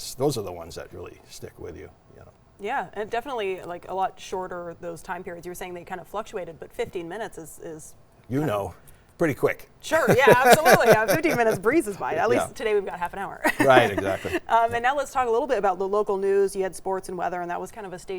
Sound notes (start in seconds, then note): 9.9 laughing